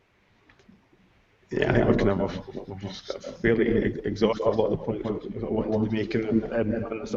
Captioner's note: sound quality deteriorates